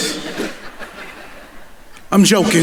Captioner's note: audience laughing